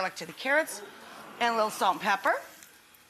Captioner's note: crowd murmuring